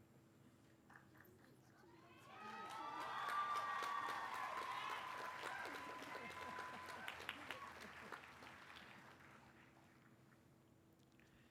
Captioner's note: applause